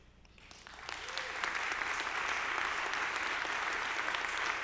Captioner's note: audience applauding